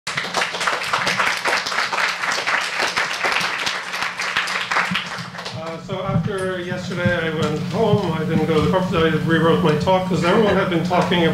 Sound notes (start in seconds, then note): 0.0 audience applauds